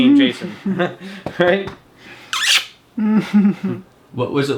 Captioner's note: laughing